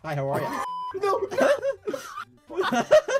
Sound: laughs

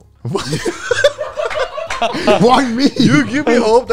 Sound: all laughing

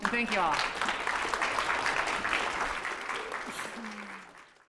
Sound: applause

